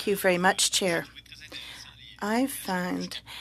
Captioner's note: speaking French